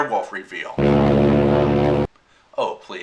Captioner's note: foghorn